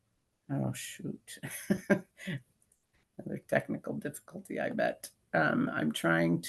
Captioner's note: laughs